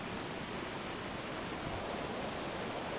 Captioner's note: wind blowing